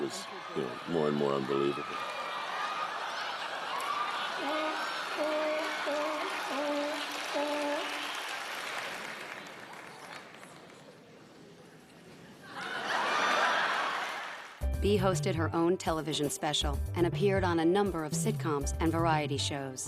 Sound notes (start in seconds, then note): 5.1 seal barking; 12.4 laughs